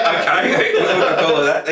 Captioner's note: laughter